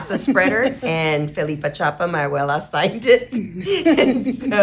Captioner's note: speaking in foreign language